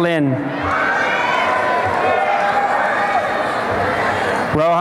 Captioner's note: applause and cheering